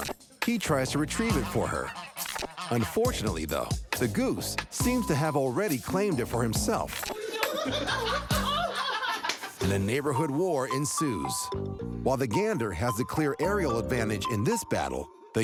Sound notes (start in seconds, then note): 7.1 laugher